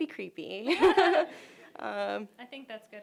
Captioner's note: laughter